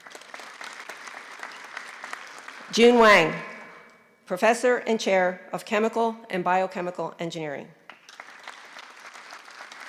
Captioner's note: applause